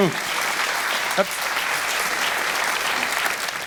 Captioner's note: applauding